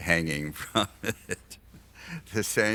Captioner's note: laughs